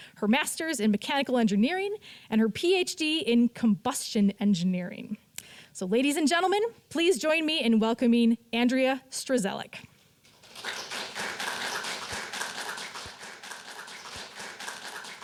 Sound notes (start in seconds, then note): 10.3 audience applauding